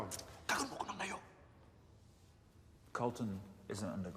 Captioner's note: miner speaking in a foreign language